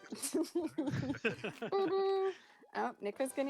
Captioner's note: laughter